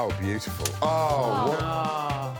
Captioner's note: upbeat music; Alex blows whistle; Alan guffawing